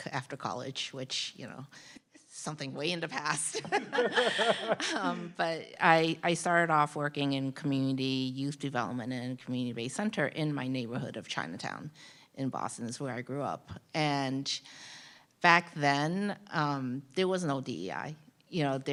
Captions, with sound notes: after college, which, you know, something way in the past. (panelists laugh) But I started off working in community youth development in a community based center in my neighborhood of Chinatown in Boston is where I grew up. And back then, there was no DEI, you know,